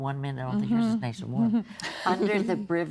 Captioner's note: chuckling